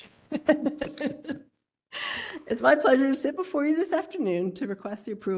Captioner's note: laugh